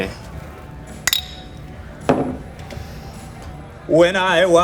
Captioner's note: bottles clinking